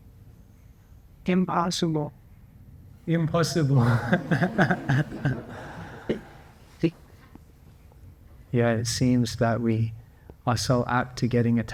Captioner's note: laughs